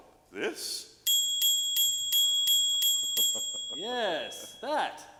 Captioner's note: bell rings